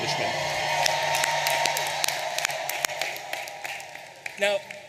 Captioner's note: audience applauding and cheering